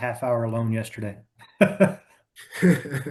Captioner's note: laughing